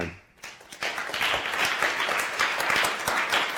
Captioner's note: applause